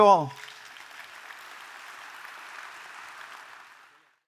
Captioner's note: audience applauds